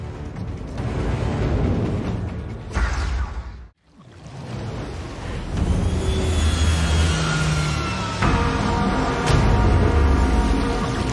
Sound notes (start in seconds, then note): 0.0 dramatic music; 3.8 water splashing; 8.1 weapons whirring